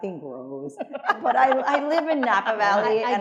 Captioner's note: attendees laughing